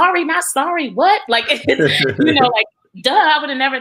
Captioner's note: laughs